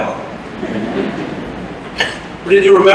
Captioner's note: laughter